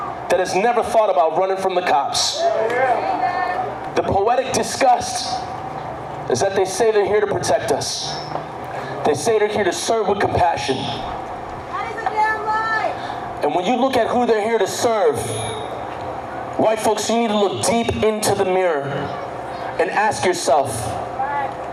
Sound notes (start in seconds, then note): 11.8 crowd